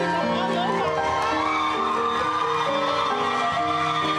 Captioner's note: cheering